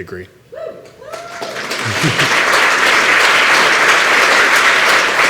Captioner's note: applause